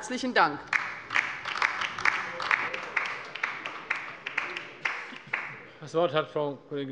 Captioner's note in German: Beifall bei der LINKEN